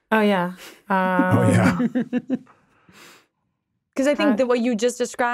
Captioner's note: chuckling